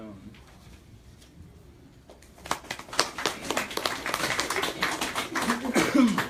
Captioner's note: clapping